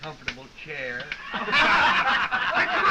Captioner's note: all laughing